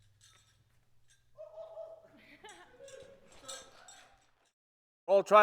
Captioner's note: person whoops; laughs